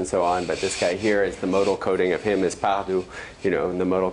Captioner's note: non-english